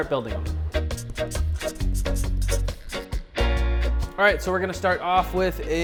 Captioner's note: marker scratching